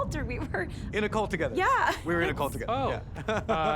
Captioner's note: chuckles